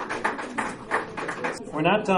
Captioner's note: applause